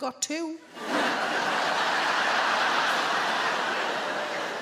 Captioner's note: audience laughing